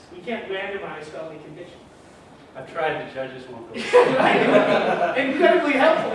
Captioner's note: laughter